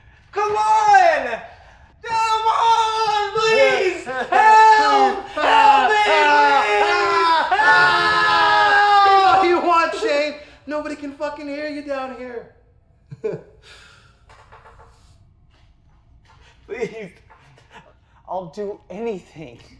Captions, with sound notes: Come on! Come on, please! Help! Help me, please! Help! (both screaming) Scream all you want, Shane. Nobody can fuckin' hear you down here. Please, I'll do anything!